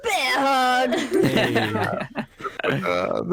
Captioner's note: all laugh